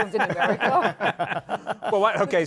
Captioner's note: laughter